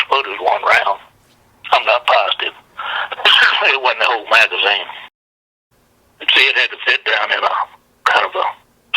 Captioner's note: coughs